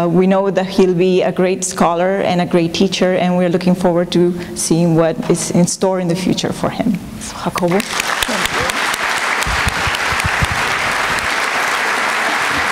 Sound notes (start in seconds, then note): 7.3 non-english; 7.6 applause